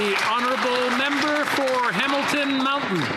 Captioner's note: applause